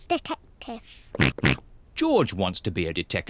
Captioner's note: oinks